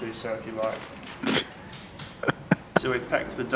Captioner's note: laughing